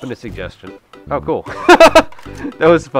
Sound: laughter

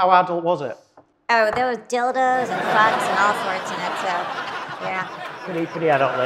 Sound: audience laughs

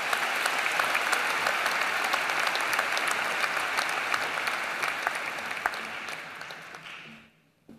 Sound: applause

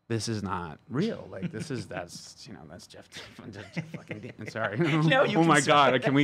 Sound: laughs

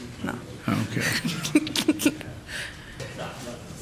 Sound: laughing

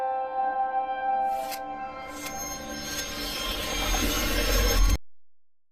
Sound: glitches zapping to a sudden wake-up signal; silence

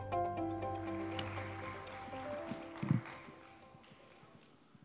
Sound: crowd applauding

